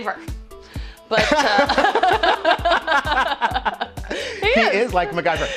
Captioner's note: both laughing